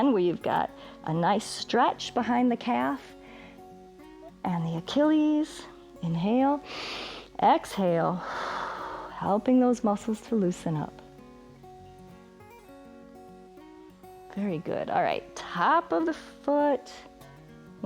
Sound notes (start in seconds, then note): 8.1 exhales; 8.2 inhales